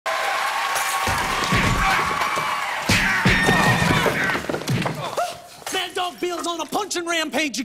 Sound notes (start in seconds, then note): 1.1 blows landing; 2.9 glass breaking